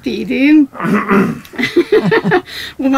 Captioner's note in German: Er räuspert sich